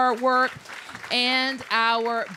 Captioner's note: applause